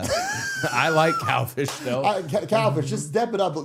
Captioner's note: Matt laughing